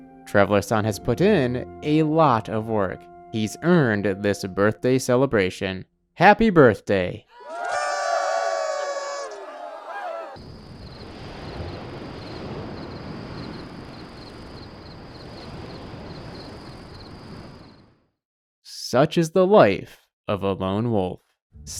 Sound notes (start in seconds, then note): 7.3 cheering and party horn noises; 10.3 crickets chirping and the tide